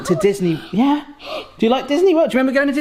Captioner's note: gasps